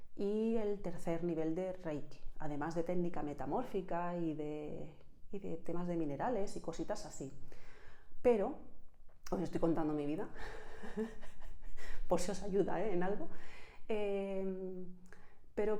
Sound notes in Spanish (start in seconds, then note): 10.4 risas